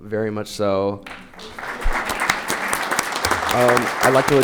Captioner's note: audience applauding